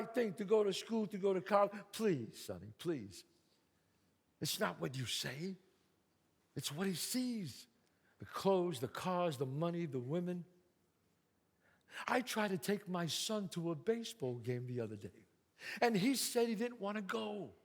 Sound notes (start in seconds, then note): none